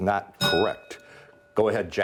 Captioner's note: bell rings